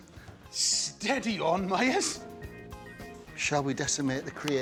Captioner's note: chuckles